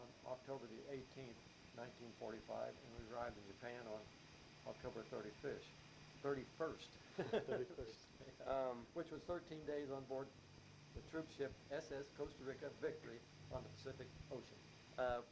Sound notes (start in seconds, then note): 7.1 both chuckle